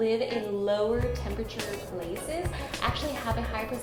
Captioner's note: wind gusting